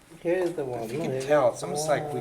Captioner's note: voiceover